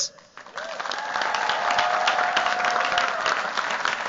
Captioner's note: cheers, applause